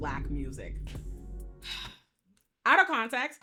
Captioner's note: sighs